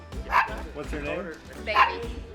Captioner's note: dog barks